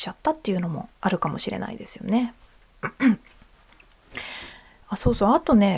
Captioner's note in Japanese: 咳払い